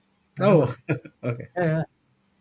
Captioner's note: laughs